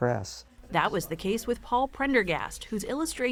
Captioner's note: voice-over